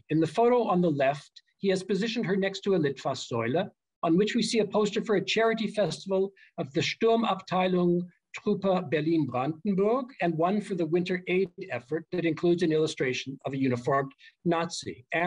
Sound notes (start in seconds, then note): 2.9 german; 7.4 german